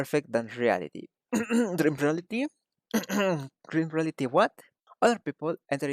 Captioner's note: clear throat